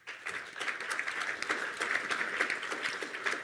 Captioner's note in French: Applaudissements